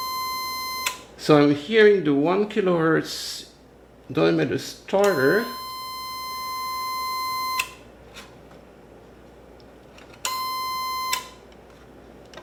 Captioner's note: 1000Hz tone from the motor